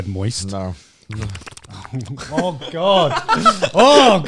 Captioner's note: lips smacking